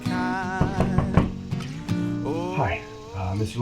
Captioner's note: knocking on door